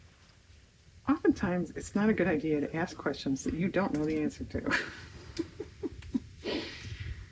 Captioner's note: laughs